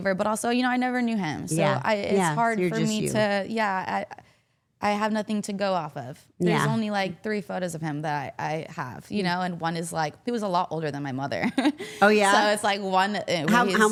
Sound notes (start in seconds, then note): 11.5 chuckles